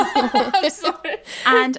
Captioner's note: laughing